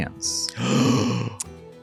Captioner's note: gasps